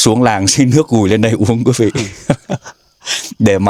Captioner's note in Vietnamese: tiếng cười